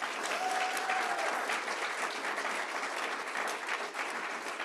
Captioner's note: audience applauding